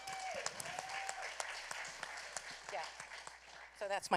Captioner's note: applause